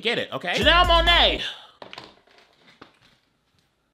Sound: sighing

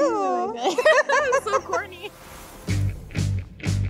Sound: both laugh; rock music starts

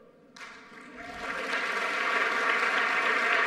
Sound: applause

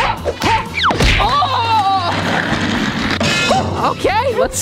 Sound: clanging; groans

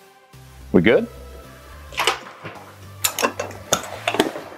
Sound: clicking Sound

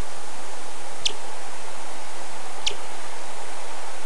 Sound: bat Chirps

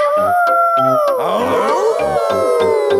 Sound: howling; all howling

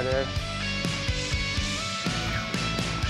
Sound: fishing line whizzes; fishing line whirring

